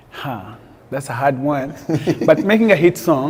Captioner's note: laughs